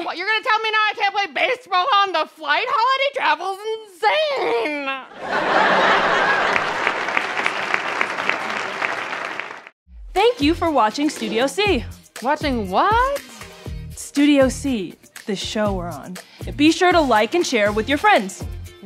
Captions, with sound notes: - What, you're gonna tell me now I can't play baseball on the flight? Holiday travel's insane! [audience laughter & applause] - Thank you for watching Studio C! - Watching what? - Studio C, the show we're on. Be sure to like and share with your friends.